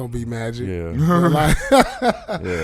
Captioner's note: laughing